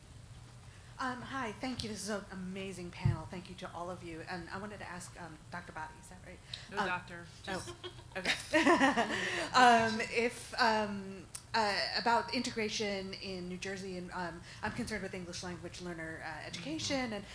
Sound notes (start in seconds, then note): 7.5 laughs